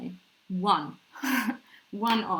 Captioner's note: laughs